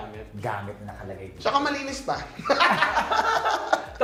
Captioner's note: laughing